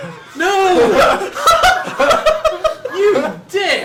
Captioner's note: cracks up